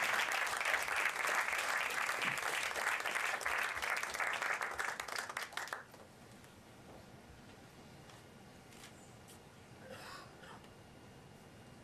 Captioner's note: applause